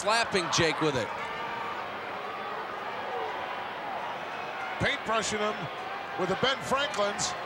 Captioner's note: applause